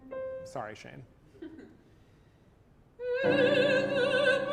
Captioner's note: chuckles